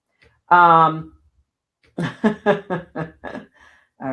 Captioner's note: laughing